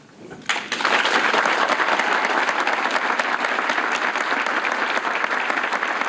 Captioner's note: applause